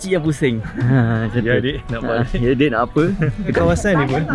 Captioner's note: laugh